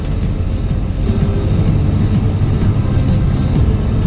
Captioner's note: bus noises and pop music